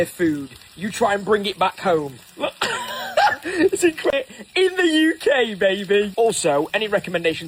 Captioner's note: laughing